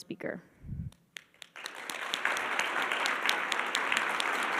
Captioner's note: attendees clapping